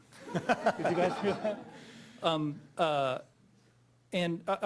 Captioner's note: audience laughing